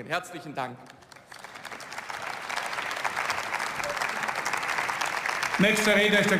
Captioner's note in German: Beifall